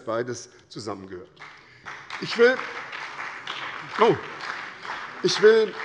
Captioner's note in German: Beifall bei der SPD